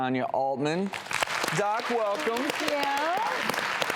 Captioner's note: audience clapping